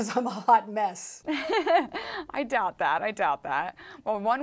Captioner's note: laughing